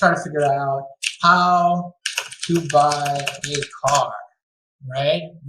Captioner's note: typing on keys